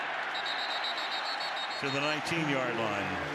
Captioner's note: whistle